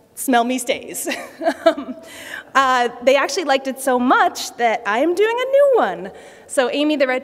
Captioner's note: laughter